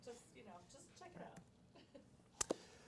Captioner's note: laughs